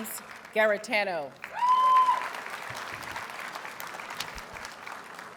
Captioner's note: audience cheers and applauds